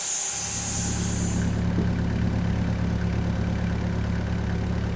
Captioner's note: engine revving